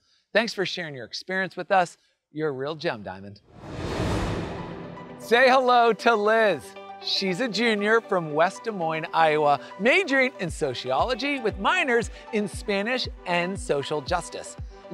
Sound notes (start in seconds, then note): 3.5 graphics whooshing